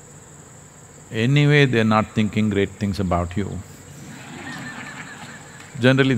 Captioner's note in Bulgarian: смях